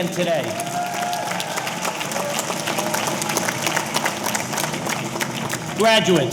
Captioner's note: audience applauding; audience cheering